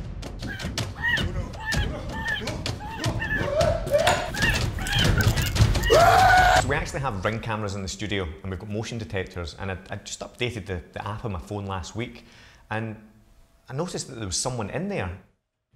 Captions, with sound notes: *BIRD ANGRILY CAWING* *PETRIFIED SCREAMING* So we actually have Ring cameras in the studio and we've got motion detectors and I'd just updated the app on my phone last week and I noticed that there was someone in there...